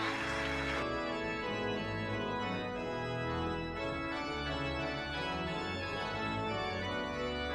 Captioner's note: applause